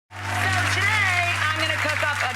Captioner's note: applause